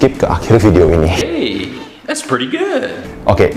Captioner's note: "hey, that's pretty gud" boi noises